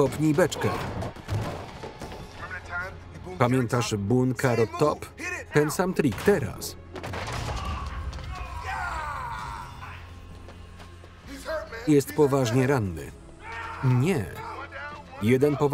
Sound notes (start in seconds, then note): 0.2 grunting; 7.4 groaning; 13.4 screaming